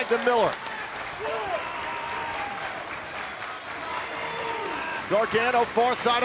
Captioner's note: crowd cheering